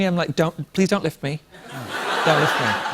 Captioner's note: laughter